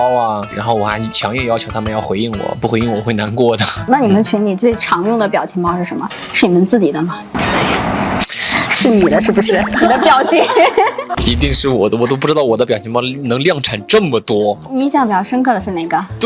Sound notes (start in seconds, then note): 7.3 hesitates